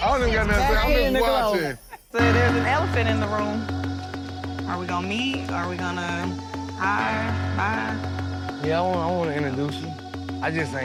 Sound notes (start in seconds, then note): 2.1 people chattering